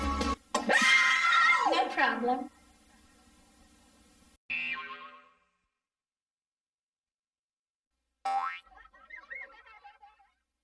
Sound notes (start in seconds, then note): 0.6 kids screaming; 4.5 boing; 8.2 boing, kids laughing